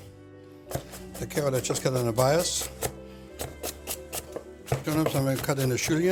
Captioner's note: chopping